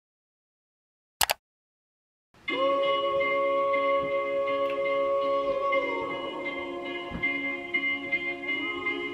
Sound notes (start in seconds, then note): 1.2 keyboard clicks; 2.6 cheerful music